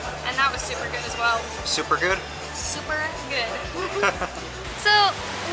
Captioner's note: laughter